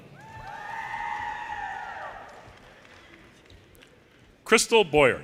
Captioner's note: audience cheers and applause